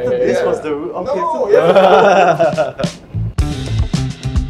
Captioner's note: all laugh; funk music